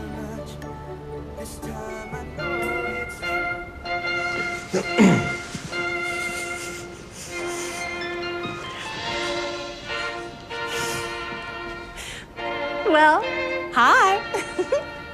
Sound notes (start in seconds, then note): 5.0 clears throat; 14.2 giggles